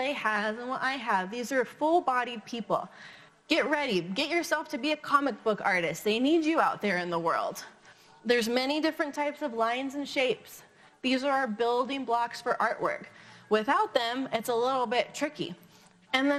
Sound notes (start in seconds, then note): none